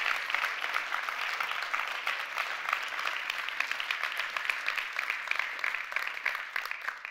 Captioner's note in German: Applaus